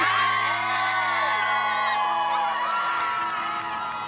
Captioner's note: crowd cheers